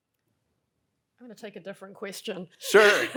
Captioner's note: laughs